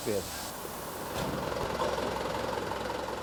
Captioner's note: engine noise